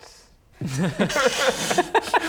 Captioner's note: unconvinced laugh